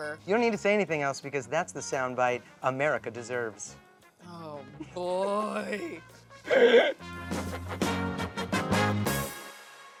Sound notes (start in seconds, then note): 5.7 upbeat horn music; 6.4 laughs